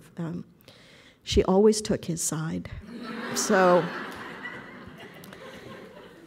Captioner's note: audience laughter